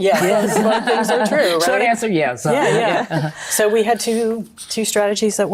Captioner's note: laughs